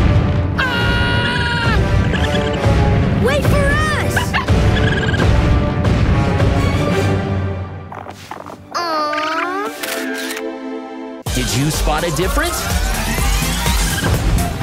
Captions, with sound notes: [screaming] [chirping] Wait for us! [barking] [chirping] Awe. Did you spot a difference?